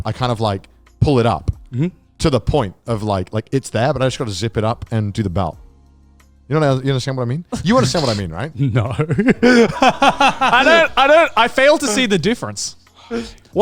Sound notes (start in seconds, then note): 9.0 laughs